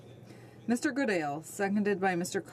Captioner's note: speaking French